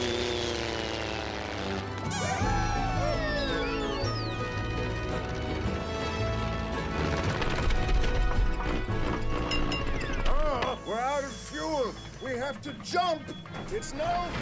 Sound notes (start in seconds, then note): 6.9 engine sputters; 9.5 glass tinks